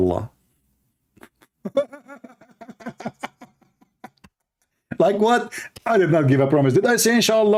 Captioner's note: Ketawa